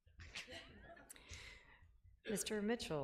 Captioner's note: laughing